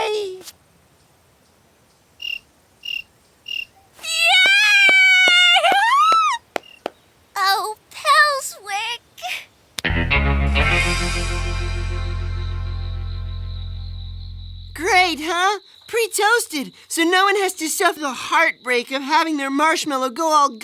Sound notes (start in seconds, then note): 3.3 crickets chirping